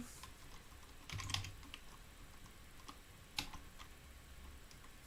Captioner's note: keyboard clicking